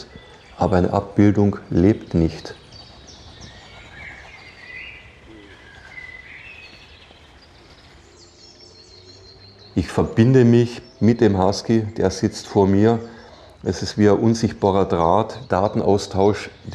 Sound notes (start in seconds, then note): 3.6 birds chirping